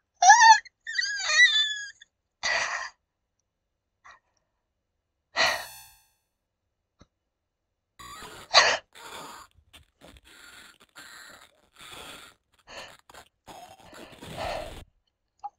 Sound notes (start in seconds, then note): 0.9 squeal of fear; 5.4 Sonic CD spike sound; 8.0 neck snapping and muffled screaming; 8.0 terrified gasp; 15.3 squealing